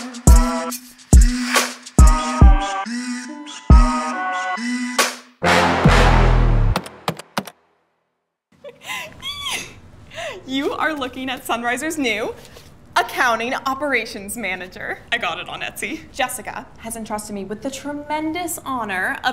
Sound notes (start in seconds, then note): 7.1 keyboard tapping; 8.8 squeals